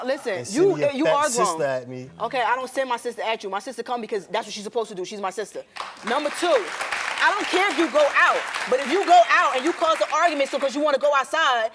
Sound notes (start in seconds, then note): 5.7 audience clapping